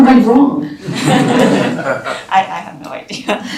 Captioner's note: laughter